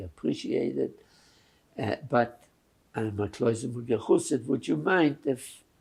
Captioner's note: yiddish